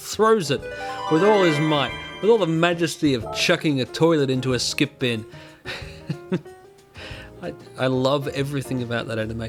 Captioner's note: chuckling